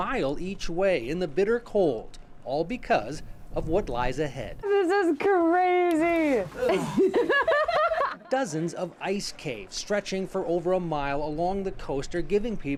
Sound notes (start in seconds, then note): 6.6 laughter